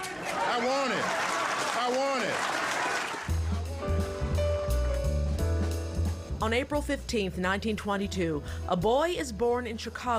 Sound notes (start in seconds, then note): 4.3 crowd applauding; 5.7 upbeat music